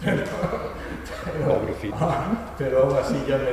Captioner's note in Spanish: risas